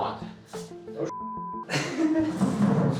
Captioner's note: laughs